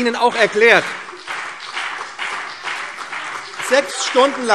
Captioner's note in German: Beifall BÜNDNIS 90/DIE GRÜNEN und CDU - Zurufe SPD